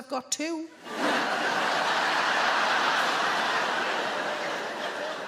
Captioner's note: audience laughing